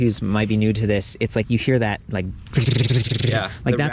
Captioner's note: imitates ratchet